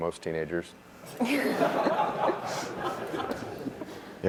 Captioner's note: laughter